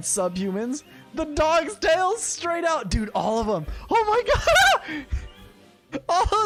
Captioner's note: laughs